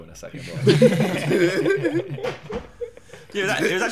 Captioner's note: laughing